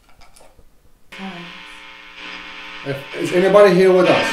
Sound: radio noise hissing

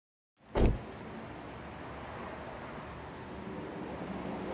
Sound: car door bangs

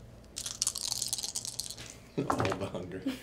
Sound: dice rattle and thud

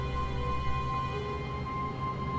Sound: strong wind

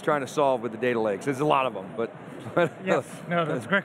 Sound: chuckles

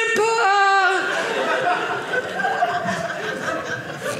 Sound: audience laughing

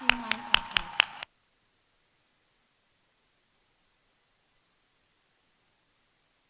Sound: audience cheering; audience applauding

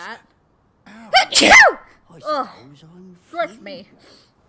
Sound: loud sneeze

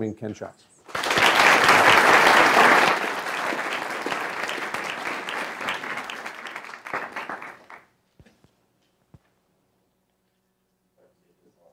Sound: applause

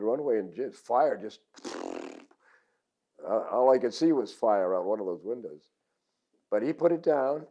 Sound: raspberries

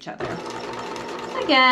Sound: sewing machine clunking

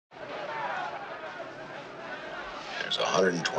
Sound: bar patrons talk loudly

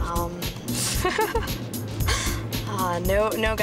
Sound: laughs

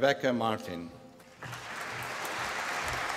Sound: applause

